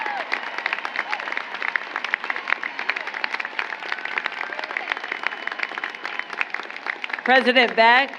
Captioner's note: applause